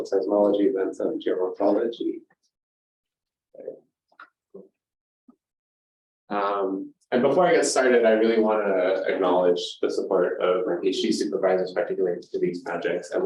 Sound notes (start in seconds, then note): 2.3 silence